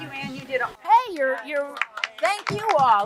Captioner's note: group applauds